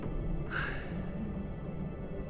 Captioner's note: gasps